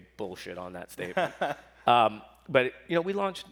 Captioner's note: laughs